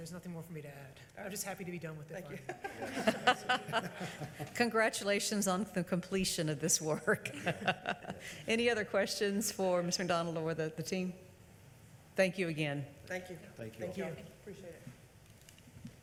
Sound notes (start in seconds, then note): 2.4 laughs; 4.1 audience laughing; 5.3 laughs